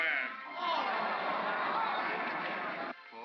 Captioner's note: crowd gasps & murmurs